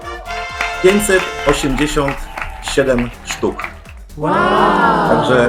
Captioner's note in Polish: Aplauz